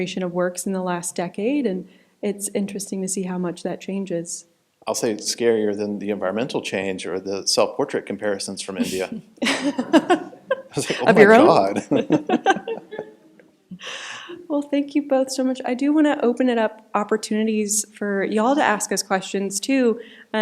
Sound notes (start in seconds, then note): 8.8 chuckling